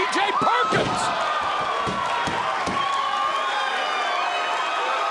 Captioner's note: crowd cheering